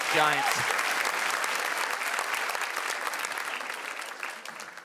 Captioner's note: audience clappin